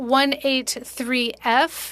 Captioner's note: speaking French